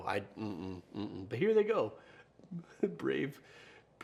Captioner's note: grunts